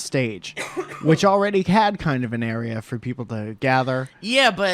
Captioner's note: coughs